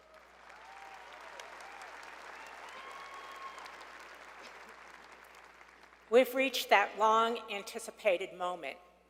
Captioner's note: applause